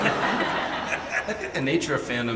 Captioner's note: audience laughing